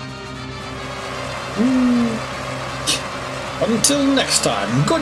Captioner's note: audience cheers; laughs softly